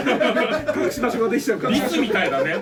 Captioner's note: laugh